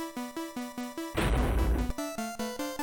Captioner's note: step